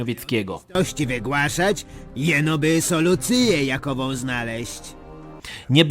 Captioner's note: told in old Polish